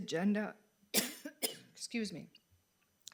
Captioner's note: coughing